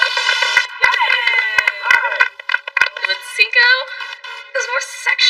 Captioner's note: appuse